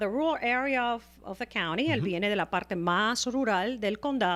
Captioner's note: Hablando ingl\s